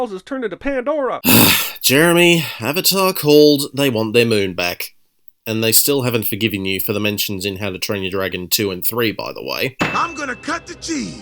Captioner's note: groan